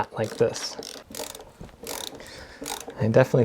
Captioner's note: ratcheting